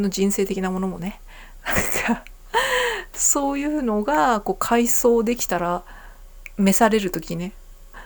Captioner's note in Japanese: 笑い